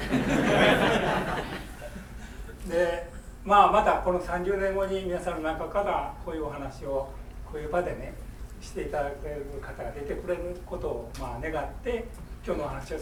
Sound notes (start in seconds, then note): 0.0 students laughing; 2.8 speaking in foreign language